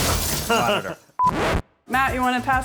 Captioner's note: glass shatters; laughs; video beeps; record scratches